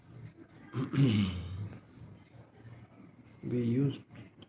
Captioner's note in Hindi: गला साफ़ करने की आवाज़